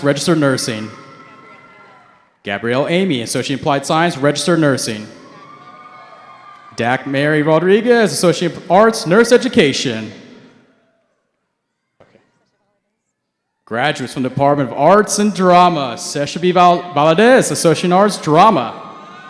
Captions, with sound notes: Registered Nursing. Gabrielle Amey, Associate in Applied Science, Registered Nursing. (cheering) Dakmary Rodriguez, Associate in Applied Science, Nurse Education. Graduates from the Department of Arts and Drama, Sesha B. Valadez, Associate in Arts, Drama.